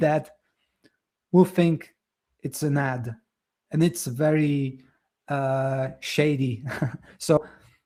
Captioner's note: chuckles